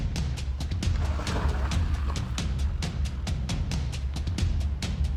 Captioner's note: car engine revs